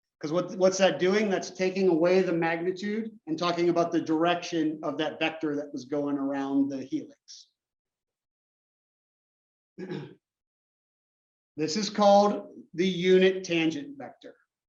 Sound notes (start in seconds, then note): 9.8 cough